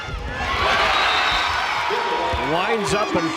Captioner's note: crowd and players cheering